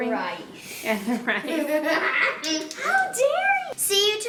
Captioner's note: laughing